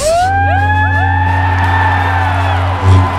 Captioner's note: cheering